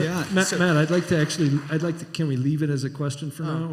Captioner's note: applause